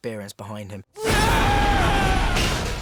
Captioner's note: shouts